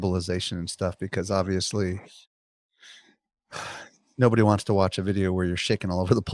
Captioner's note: sighs